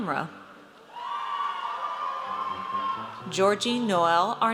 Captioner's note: audience cheers